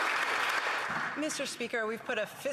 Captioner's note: applause